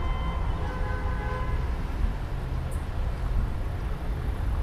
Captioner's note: car horn honks